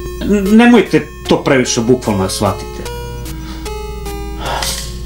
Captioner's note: none